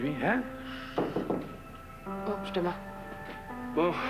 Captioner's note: On cogne à la porte